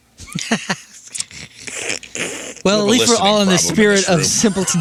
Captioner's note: laughing